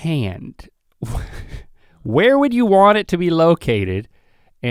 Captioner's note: chuckles